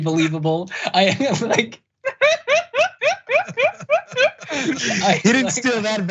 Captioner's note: laugh